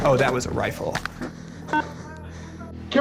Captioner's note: radio beeps